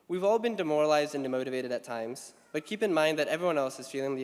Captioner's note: none